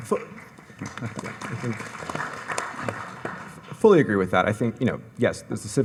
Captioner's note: audience applauds